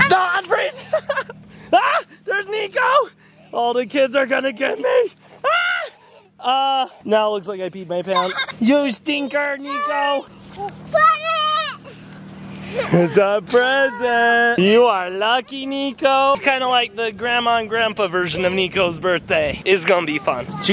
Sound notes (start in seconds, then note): 0.7 giggling; 5.4 screams; 8.1 laugh